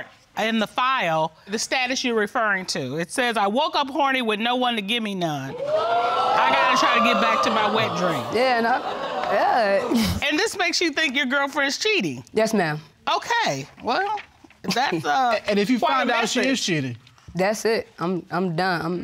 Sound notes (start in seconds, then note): 8.1 audience exclaiming; 9.2 chuckles